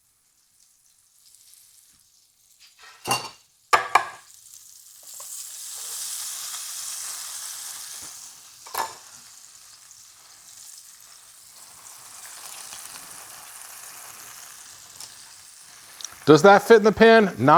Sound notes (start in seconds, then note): 3.7 chopping board thudding; 5.6 meat sizzling